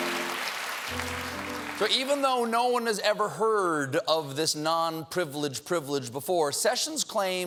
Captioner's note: applause